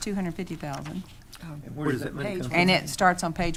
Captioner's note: speaking quietly